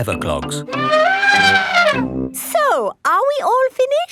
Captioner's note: trumpeting